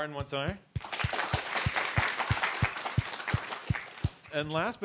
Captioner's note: applause